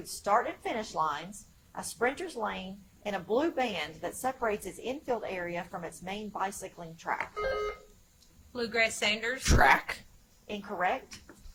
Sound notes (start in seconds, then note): 7.3 buzzer chimes